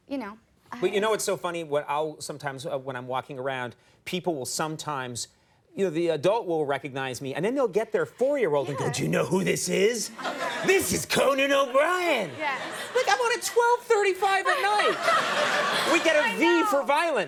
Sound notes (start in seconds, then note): 12.5 audience laughing; 13.9 Amy laughing; 16.1 audience laughing